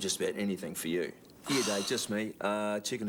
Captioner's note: Jodie sighs